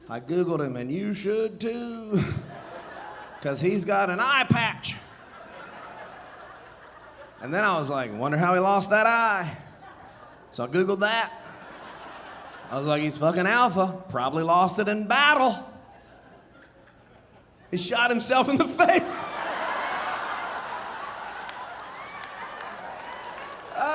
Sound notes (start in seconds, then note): 2.1 audience laughing; 11.3 audience laughing; 16.1 audience laughing; 19.0 audience laughing, cheering and applauding